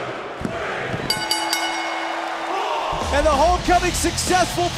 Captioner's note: bell ringing